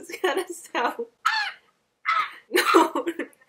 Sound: laugh; squawking; tries to imitate peacock sound she makes

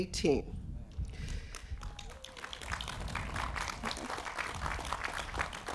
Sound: applause

